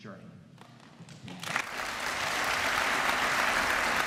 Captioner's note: applause